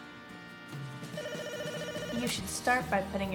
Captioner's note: phone ringing